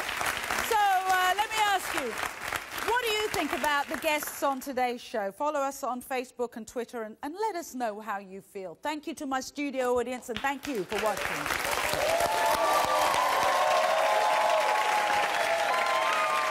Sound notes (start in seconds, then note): 10.7 audience applauding